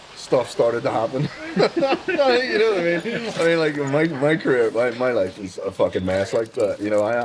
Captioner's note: laughter